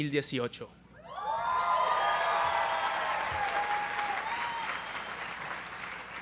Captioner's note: applause